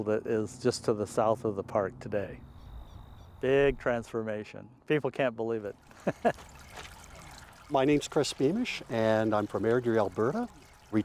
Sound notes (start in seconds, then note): 5.9 laughing